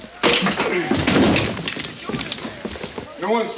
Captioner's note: chair clatters